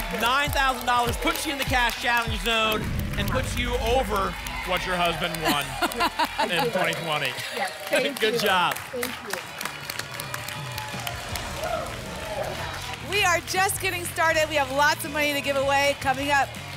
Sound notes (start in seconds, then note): 10.3 applause and cheering